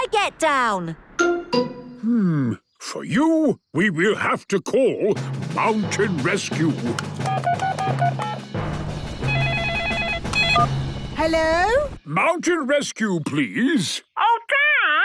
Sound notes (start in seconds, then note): 7.2 phone beeping; 9.2 phone ringing